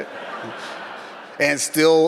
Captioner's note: audience laughs